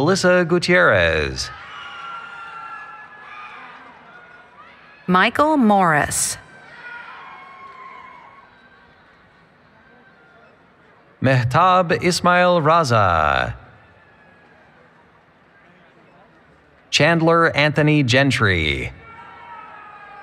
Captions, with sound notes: Melissa Gutierrez. [ Cheering ] >> Michael Morris. >> Mehtaab Ismail-Raza. Chandler Anthony Gentry.